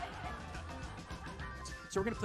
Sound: laughter

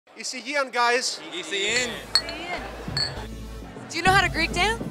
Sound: cheers

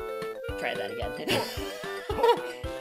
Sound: laughing

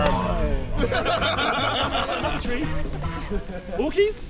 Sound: laughter

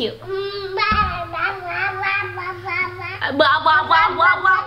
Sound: baby babbling

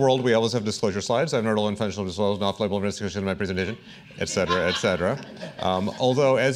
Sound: laughter

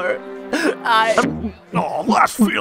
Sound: sob

